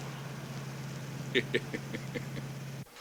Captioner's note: Joe chuckles